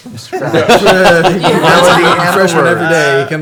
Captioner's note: all laugh